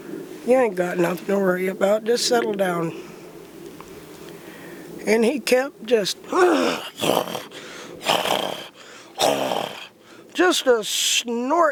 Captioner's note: snorting